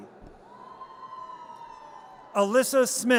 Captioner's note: audience cheers